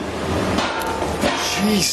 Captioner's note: clanging